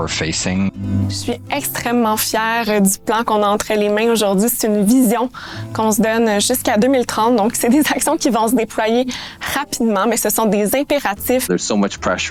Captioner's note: speaking French